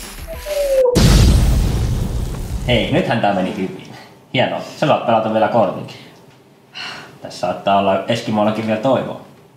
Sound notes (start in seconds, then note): 0.0 kaboom!